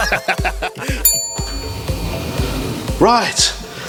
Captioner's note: both laughing; elevator dinging